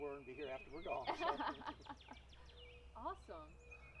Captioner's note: laughing